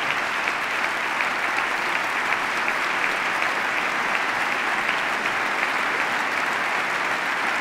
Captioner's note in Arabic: تصفيق